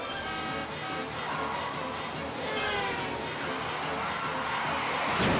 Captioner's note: cars hooting; tires screeching; cars crashing